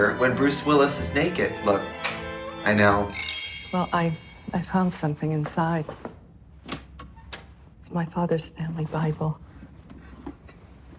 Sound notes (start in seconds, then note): none